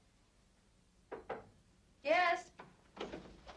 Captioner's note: knocking